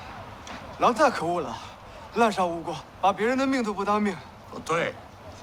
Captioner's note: man speaking in foreign language; man speaking foreign language